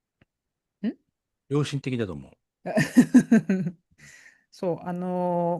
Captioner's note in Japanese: 笑い